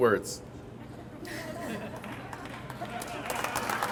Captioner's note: audience laughs